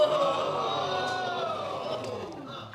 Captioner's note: audience groaning